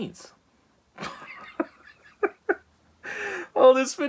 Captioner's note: nervous laughter